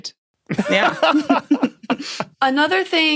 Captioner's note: snickers; laughs heartily